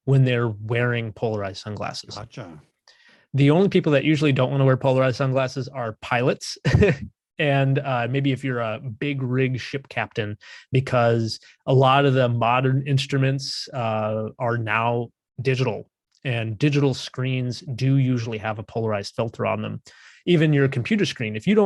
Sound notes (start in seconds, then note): 6.6 chuckles